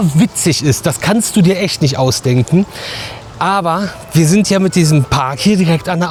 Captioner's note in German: schnauben